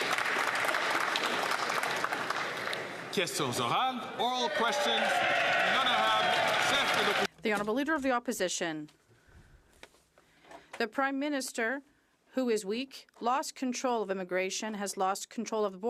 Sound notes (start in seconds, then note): 4.2 some Applause